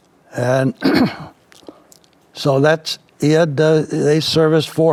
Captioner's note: clears throat